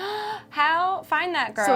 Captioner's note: gasp